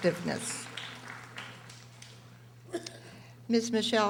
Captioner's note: audience applauding